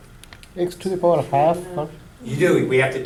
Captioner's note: voiceover